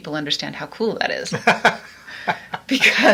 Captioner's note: laughs